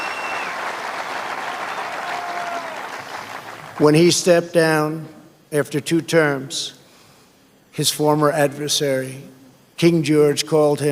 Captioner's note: applause